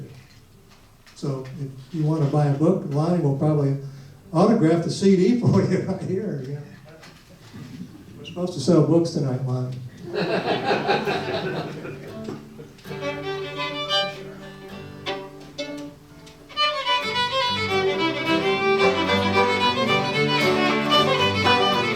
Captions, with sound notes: So you want to buy a book, Lonnie will probably autograph the CD for you right here. We're supposed to sell books tonight, Lonnie. (audience laughs) (instrumental music)